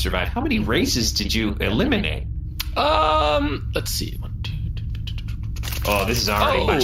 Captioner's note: counting slowly